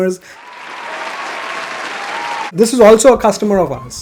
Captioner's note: claps